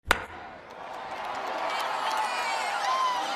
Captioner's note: crack of baseball bat; crowd cheering